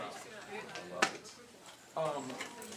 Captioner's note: background chatter